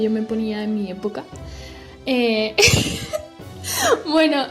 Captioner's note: laughs